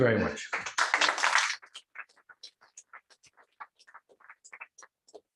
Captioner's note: applause